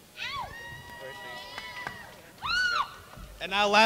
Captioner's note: crowd cheers